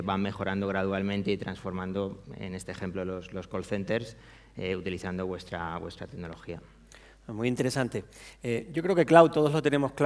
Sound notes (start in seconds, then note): 7.8 speaking spanish